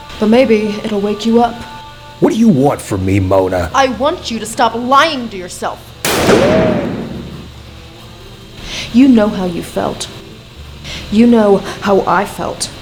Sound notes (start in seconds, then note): 6.0 shot ricochets